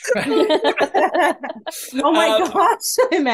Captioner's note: panel laughs